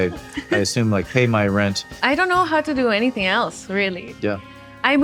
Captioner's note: chuckles